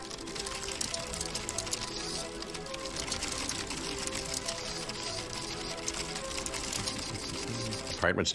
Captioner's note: rapid typing and clicking